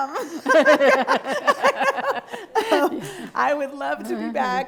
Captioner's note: both laughing